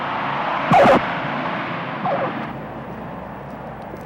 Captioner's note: tires screeching